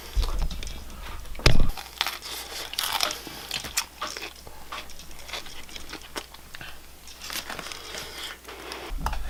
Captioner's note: chews annoyingly